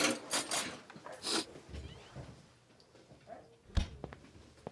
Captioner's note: silverware rattling; Buck sniffs